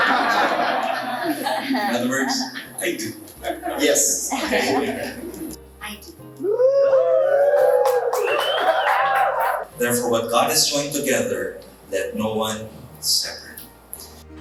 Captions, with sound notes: THAT WORKS. I DO. [LAUGHS] I DO. [APPLAUSE] [CHEERS] THEREFORE, WHAT GOD HAS JOINED TOGETHER, LET NO ONE SEPARATE.